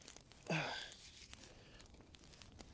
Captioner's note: sighs